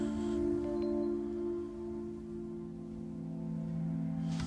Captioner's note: phone beeps